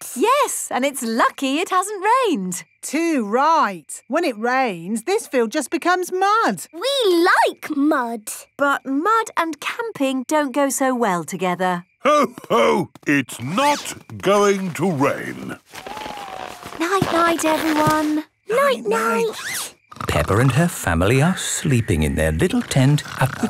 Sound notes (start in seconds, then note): 19.5 snores